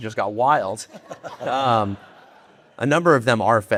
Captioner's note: audience laughing